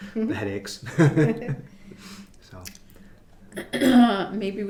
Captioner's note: laughing